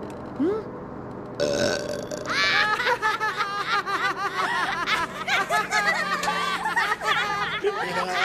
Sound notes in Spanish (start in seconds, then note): 1.4 eruptos; 2.4 risas